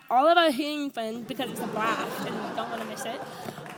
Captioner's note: audience laughs